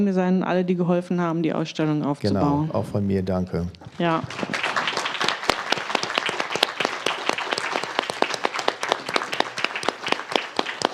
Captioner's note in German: applaus